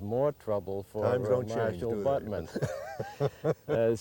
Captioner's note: laughing